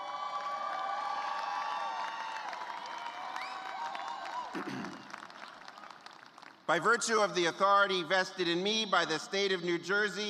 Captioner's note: cheers and applause